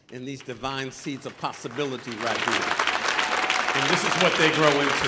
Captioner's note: audience applauding